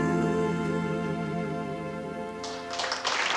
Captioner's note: applause